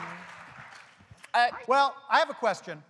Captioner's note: applause